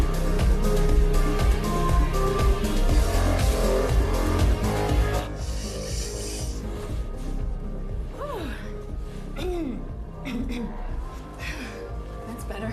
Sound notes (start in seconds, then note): 5.2 sniffare; 9.4 schiarisce la voce